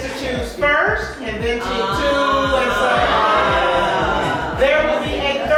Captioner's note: guests grunt